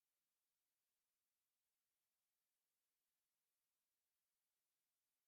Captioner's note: none